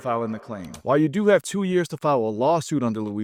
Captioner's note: screen clicking